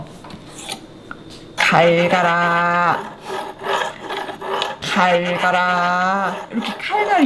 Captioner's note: she’s making sharpening sound